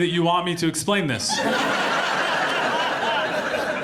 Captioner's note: audience laughs